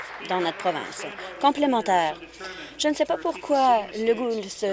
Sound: applause

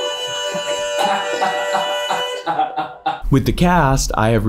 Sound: laughing

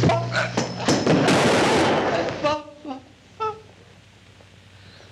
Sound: gun fires

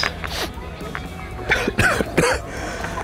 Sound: chokes 2.0

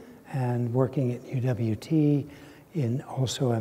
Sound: none

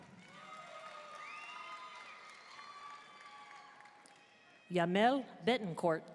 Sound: audience cheering and applauding

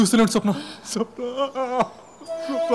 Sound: sobbing

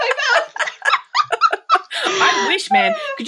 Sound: laughing

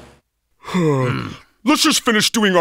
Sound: both sigh

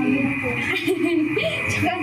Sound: chuckles

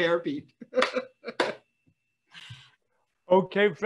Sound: laughing

